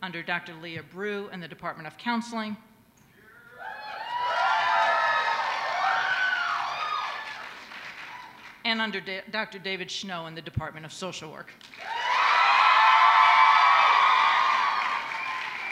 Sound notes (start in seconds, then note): 6.5 applause